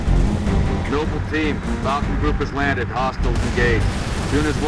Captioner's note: radio